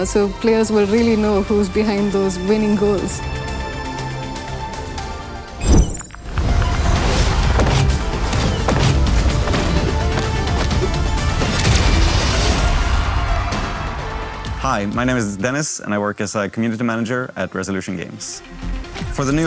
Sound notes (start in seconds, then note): 3.4 intense electronic music continues; 5.6 electronic buzzing; 6.6 intense electronic music; 7.7 guns blasting; 12.5 audience cheers; 18.4 upbeat electronic music